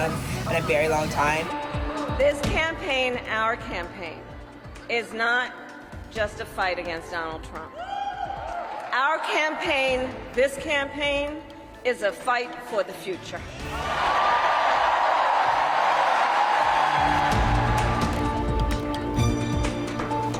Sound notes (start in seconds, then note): 13.7 attendees cheering; 16.8 bright music